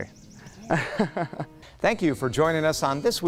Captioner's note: laughing